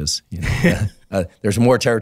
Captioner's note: laughs